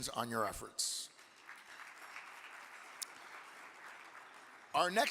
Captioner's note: audience clapping